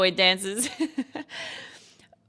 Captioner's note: laughs